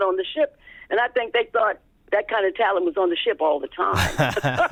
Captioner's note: laughter